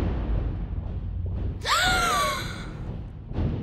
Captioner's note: excited gasp